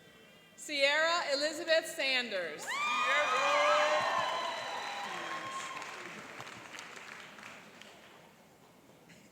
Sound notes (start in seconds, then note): 2.6 cheering and applauding